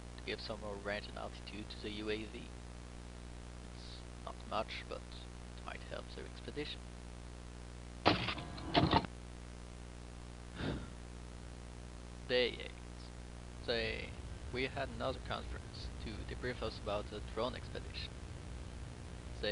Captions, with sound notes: to give some more range and altitude to the UAV. It’s not much, but it might help their expedition. (sigh) Day 8 We had another conference, to debrief us about the drone expedition.